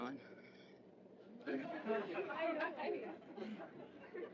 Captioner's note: laughter